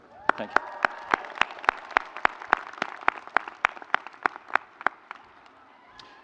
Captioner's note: audience cheering